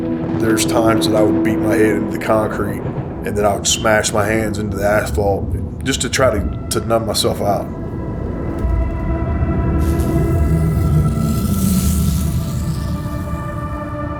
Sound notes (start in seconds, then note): 0.1 thunder rumbling; 8.8 lightning crackling